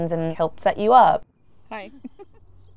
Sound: laughs

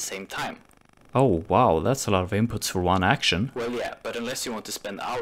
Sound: distorted voice

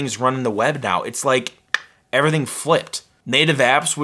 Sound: clicks

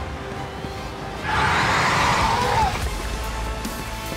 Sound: intense dramatic music; Demogorgon hissing; intense dramatic music

